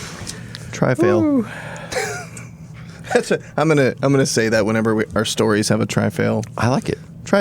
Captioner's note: laughing